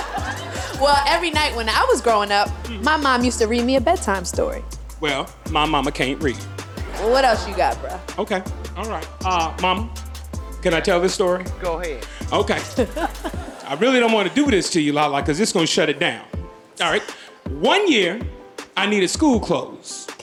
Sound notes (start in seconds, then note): 6.4 audience laughing